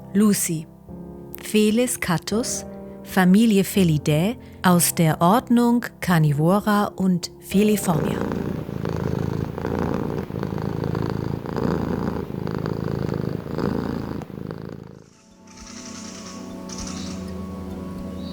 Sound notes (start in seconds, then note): 7.5 purring